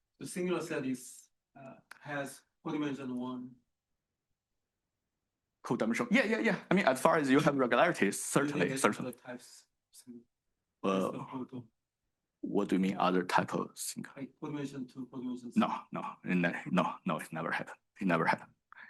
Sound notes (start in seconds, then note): 13.3 faintly speaking